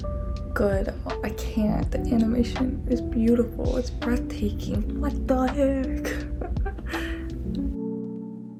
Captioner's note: laughs